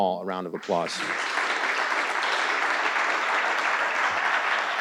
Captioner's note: audience applauding